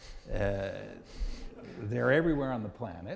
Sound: audience laughing

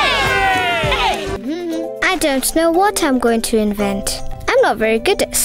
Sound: cheering; Aziza hums

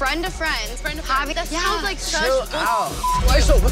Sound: beep

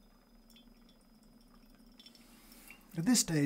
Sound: coffee brewing

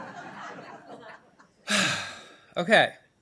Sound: laughter; sighs

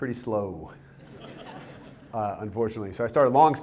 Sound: audience chuckles

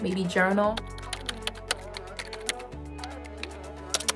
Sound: keyboard clacking

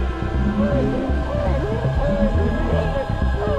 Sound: howling

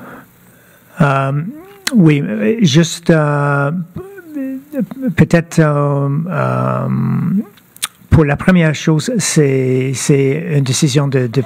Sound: speaking French

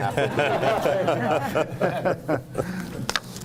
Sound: laughter

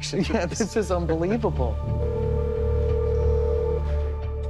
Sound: phone ringing

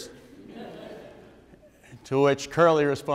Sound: audience members laugh

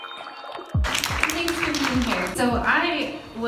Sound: audience claps

